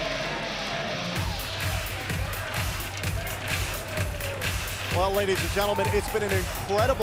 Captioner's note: fans chanting